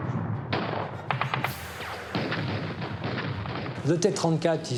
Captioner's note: explosion booms